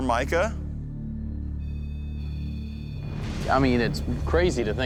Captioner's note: beeping